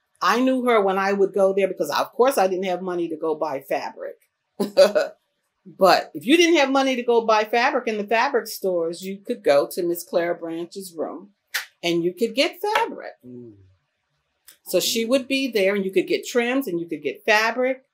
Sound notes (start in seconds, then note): 5.1 laughs